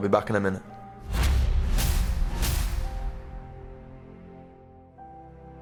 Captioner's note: memory images thudding